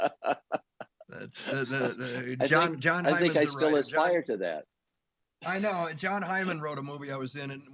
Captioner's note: laughter